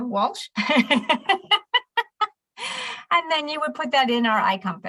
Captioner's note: laughs